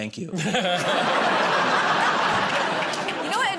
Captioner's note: laughter